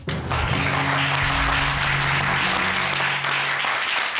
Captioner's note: applause